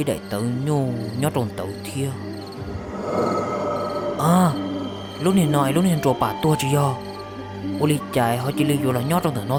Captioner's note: gasps